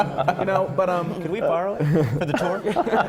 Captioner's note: laughter